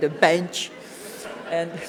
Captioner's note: audience chuckles